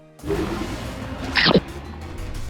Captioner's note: Sound from Spyro 2: Gateway to Glimmer